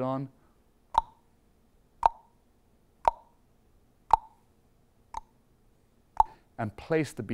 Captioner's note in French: tock